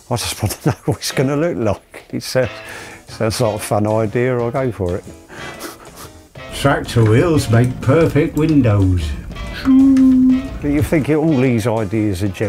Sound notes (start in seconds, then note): 0.3 chuckles; 5.4 chuckles